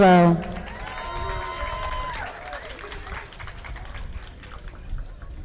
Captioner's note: audience applauding